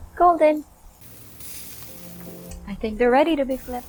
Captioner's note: sizzling